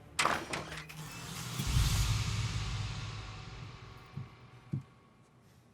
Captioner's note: door clicking; dramatic orchestral music